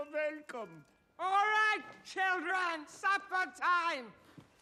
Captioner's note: shouts